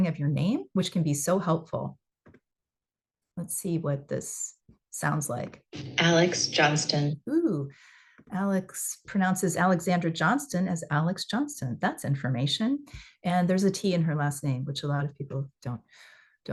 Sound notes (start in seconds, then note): 5.6 recording playing